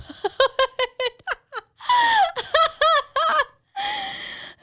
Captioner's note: laughs